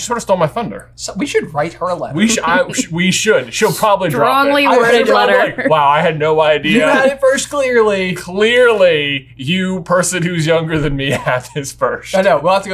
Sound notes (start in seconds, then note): 5.7 laughing